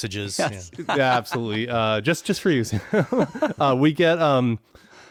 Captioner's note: laughs